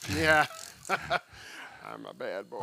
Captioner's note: laughing